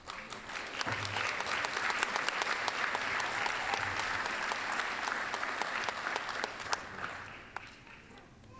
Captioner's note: applause